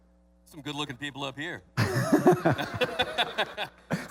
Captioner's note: laughing